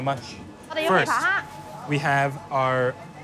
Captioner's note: speaks in foreign language